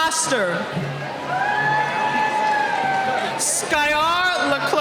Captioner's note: cheering